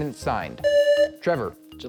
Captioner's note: buzzer